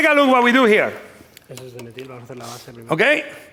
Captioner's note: speaking spanish